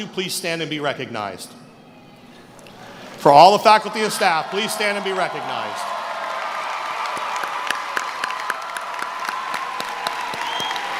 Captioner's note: applause